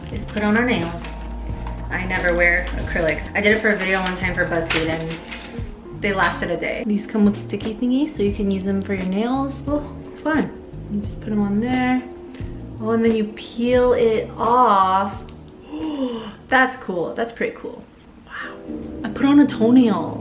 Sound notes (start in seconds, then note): 15.6 gasping